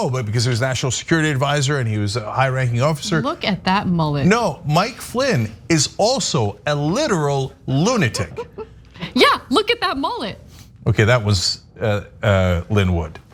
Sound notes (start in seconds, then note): 8.1 laugh